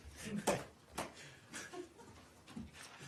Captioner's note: laughter